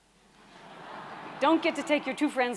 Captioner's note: chuckling